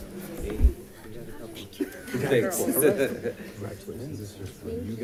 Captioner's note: crowd chatting